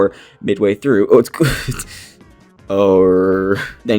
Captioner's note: stammers and laughs